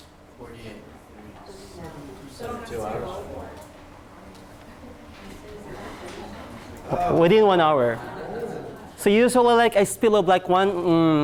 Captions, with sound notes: (class chattering) Within one hour. So usually, a spill of like one,